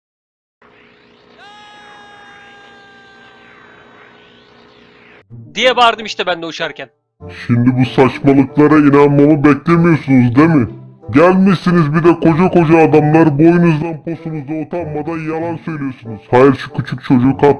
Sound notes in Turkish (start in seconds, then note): 1.4 Arkadan Gelen Bağırış Sesi